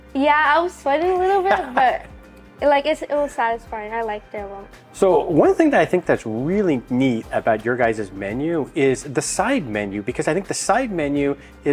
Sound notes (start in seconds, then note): 1.3 presenter laughing